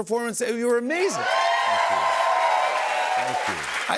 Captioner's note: cheers and applause